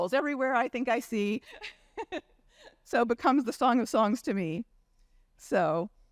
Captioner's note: chuckles